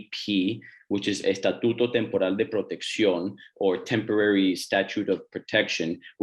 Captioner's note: non-english speech